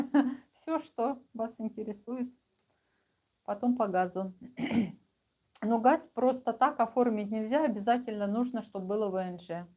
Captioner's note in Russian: откашливается